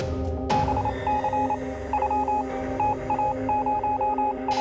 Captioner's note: radar beeping